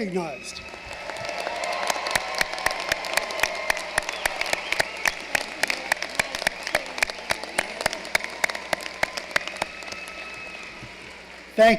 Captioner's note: applause